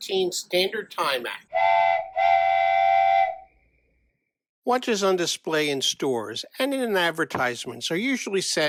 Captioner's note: train whistle